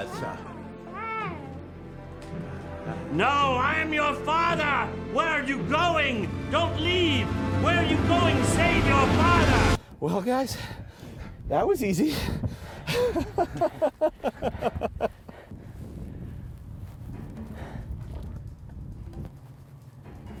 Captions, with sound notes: No, I am your father. Where are you going? Don't leave. Where are you going? Save your father. Well, guys, that was easy. [laughter] [tense music]